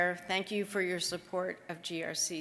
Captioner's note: none